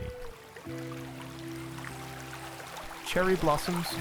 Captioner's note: water splashing